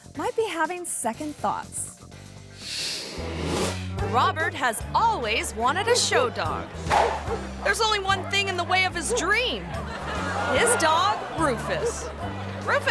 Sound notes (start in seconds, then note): 3.3 bright playful music; 3.3 dog barking; 9.9 crowd laughing